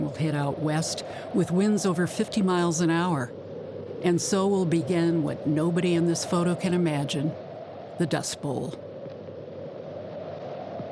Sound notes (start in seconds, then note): 3.2 wind blowing